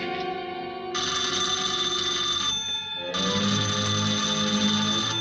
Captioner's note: phone rings; suspenseful music